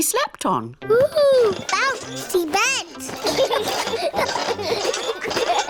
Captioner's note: children laugh